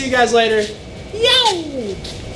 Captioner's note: shouts